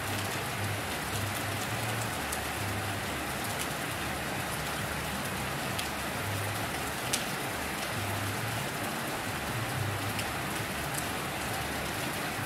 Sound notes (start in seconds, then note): 8.2 rain Sounds